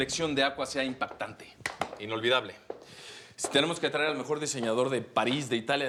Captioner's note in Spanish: Palmadas